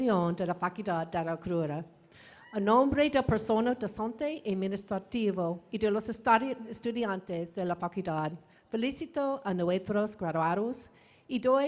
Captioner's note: speaking spanish